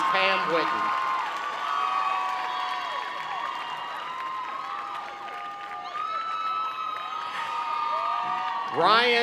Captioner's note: cheering and Clapping